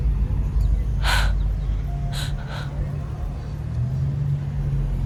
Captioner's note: Sarah breathes heavily; engine revving